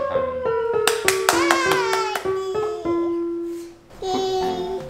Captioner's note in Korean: 박수